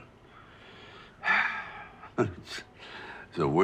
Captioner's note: Dwight sighing